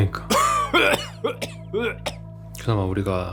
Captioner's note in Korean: 기침 소리